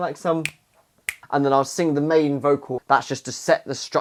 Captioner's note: finger clicks